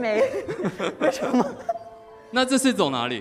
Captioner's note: audience laughs